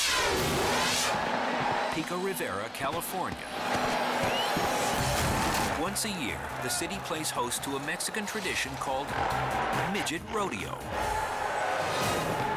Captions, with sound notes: Pico Rivera, California. (crowd cheers indistinctly) Once a year, the city plays host to a Mexican tradition called Midget Rodeo.